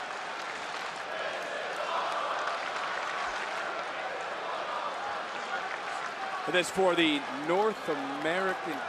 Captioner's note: crowd chants "this is awesome"